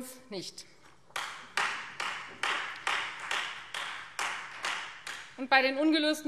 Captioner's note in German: Beifall Freie Demokraten